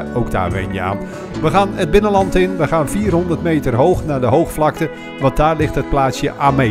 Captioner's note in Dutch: Voiceover